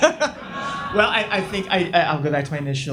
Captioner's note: audience laughs